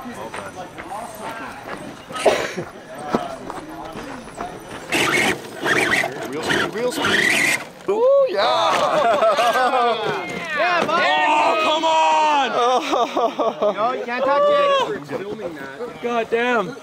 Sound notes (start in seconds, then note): 4.1 engine whining; 8.8 laughter